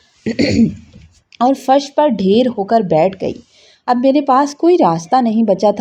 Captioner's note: clears throat